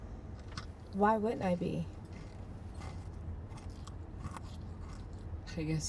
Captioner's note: granola bar crunching